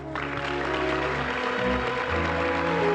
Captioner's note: crowd applause